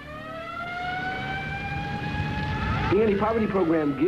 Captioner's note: sirens